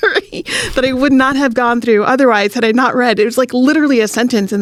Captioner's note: laughs